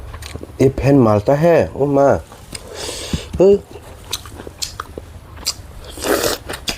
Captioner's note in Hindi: नाक से की जाने वाली आवाज़